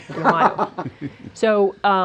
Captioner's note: laughter